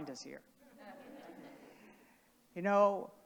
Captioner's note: audience laughing